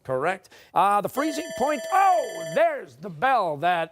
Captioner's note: bell rings